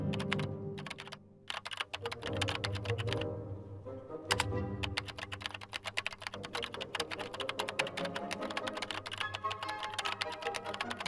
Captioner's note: keyboard clacking